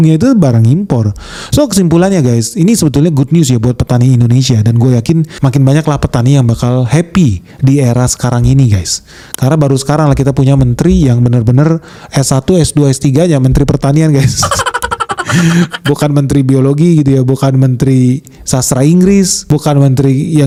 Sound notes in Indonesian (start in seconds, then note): 14.3 tertawa